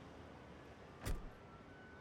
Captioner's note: door thuds